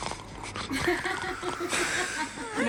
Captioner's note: laughter